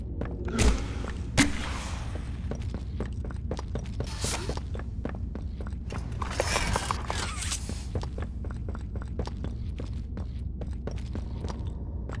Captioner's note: gunshot